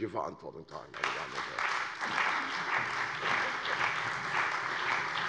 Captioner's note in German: Allgemeiner Beifall